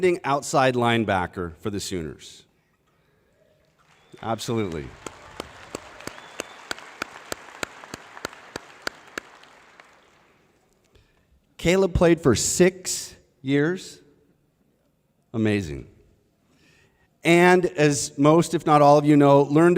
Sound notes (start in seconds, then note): 3.6 applause